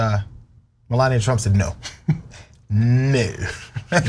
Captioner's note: laugh